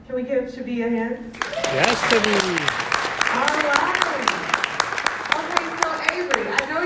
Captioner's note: clapping